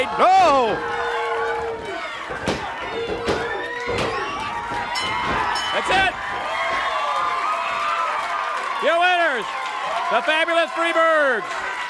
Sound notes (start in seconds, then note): 2.3 hand tapping; 4.9 bell rings; 6.9 audience cheering